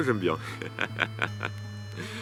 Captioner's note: laughs